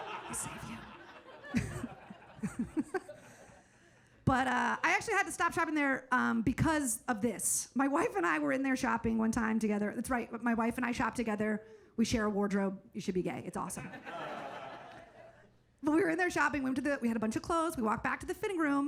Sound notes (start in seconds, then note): 1.7 all laugh; 13.9 audience laughs